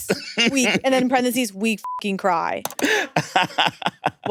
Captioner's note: beep